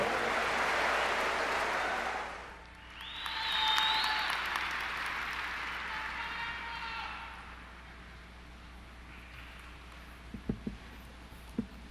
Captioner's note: applause